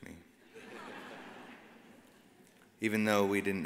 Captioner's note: audience laughs